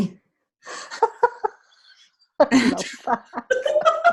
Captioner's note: laughing